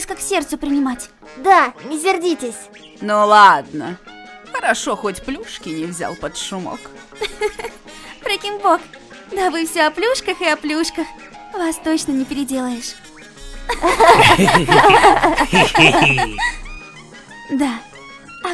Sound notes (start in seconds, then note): 6.9 laughing; 6.9 laughs